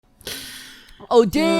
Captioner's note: inhales; cry